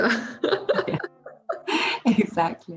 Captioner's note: laughs